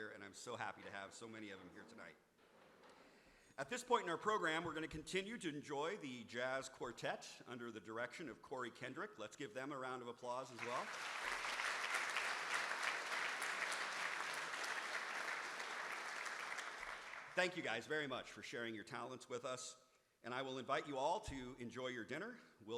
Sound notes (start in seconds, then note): 10.5 audience applauding